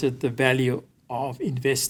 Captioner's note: none